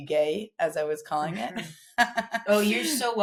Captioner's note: laughs